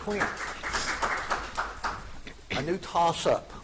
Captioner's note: audience applauding